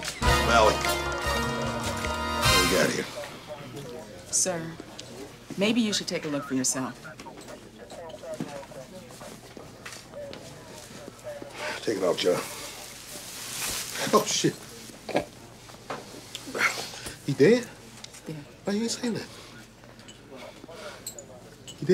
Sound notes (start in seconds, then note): 7.4 police radio chatter